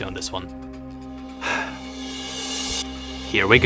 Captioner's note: sighs loudly